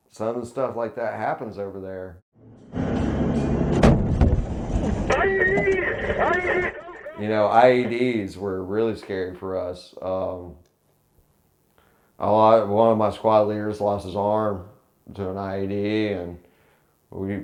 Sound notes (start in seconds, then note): 2.6 explosion